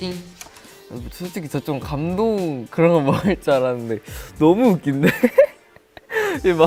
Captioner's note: laughs all the time